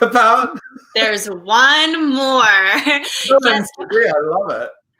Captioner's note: laughs; laughs